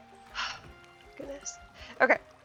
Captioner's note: sighs